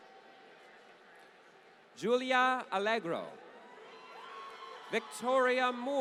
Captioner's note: applause